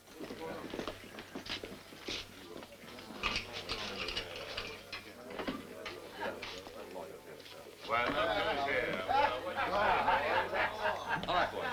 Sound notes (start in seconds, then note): 2.6 all murmuring; 9.2 laughter